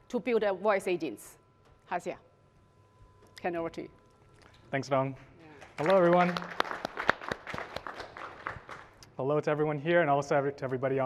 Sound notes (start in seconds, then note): 5.5 applause